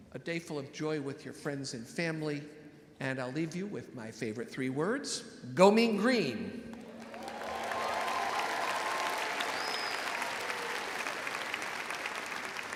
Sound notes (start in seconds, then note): 6.8 audience cheering